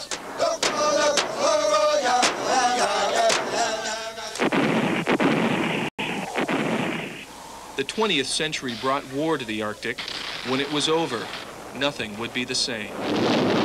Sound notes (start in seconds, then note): 4.3 canon fire; 12.8 explosions